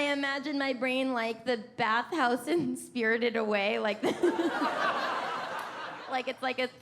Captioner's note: laughing